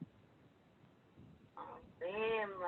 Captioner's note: foreign Language